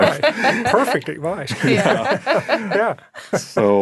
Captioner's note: laughing